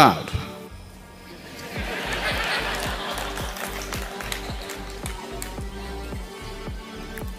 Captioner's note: प्रतिभागी हंसते हुए; participants Laugh